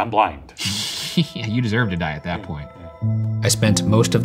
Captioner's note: laughs